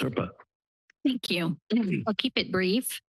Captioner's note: clears throat